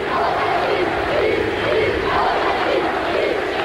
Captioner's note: youth cheering